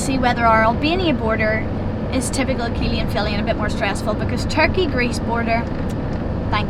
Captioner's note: kiss